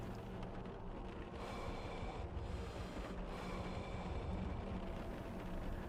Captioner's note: lighthouse Keeper breathing heavily